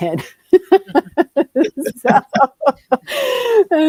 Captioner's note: laughter